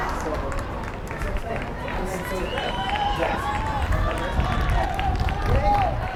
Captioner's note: crowd yelling and applauding